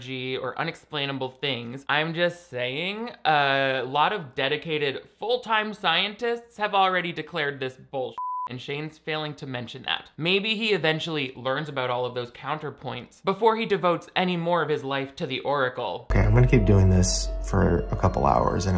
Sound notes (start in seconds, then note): 8.2 beep